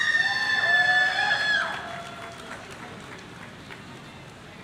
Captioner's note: audience cheering